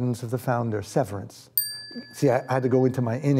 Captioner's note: bell dings